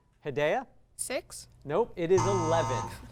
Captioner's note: buzz